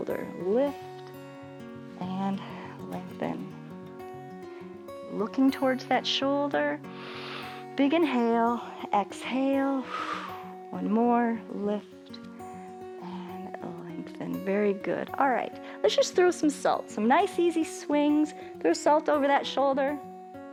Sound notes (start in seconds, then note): 6.9 inhales; 9.7 exhales